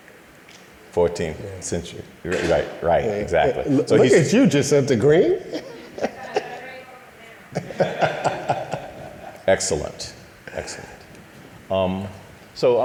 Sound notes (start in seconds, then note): 2.4 laughing